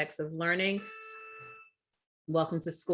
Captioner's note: alarm beeps